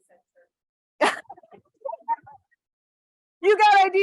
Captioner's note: laughter